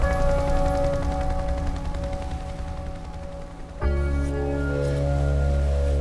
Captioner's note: helicopter whirring